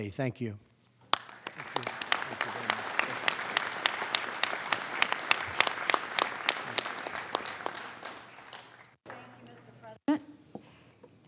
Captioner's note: applause